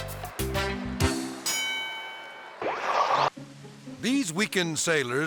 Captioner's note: bell rings